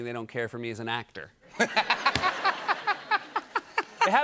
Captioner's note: laughter